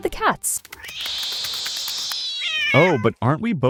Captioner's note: cats snarling, hissing and yowling